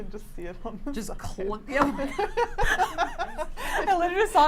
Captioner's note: laughs